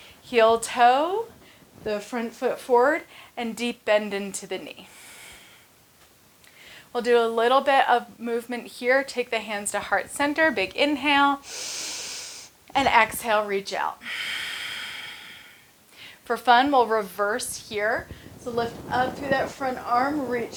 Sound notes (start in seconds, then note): 11.4 inhales; 15.3 exhales